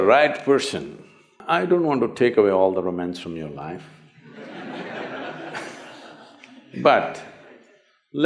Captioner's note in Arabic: ضحِك